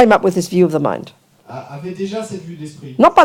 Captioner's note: audience member speaks in French